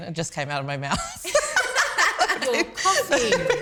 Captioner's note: laughter